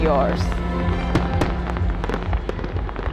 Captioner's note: fireworks popping